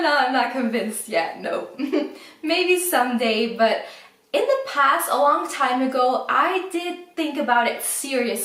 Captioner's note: laughs